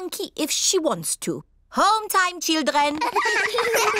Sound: all giggle

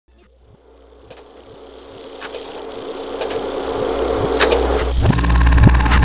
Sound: projector whirring and clicking; tape rewinding

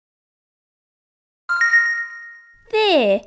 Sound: ding!

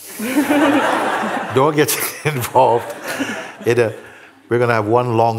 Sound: laughter

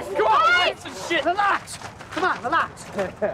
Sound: men shouting

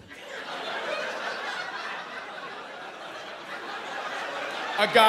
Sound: laughter and murmurs

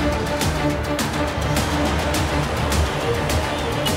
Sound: tension music continues; chants; horn sounds

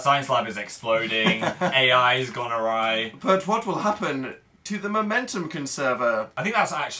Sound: laughs

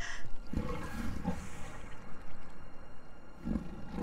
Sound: roaring of a leopard

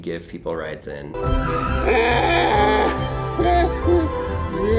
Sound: man screaming

